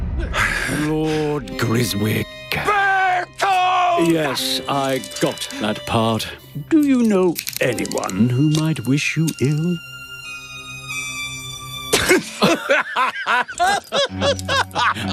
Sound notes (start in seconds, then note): 11.9 both laugh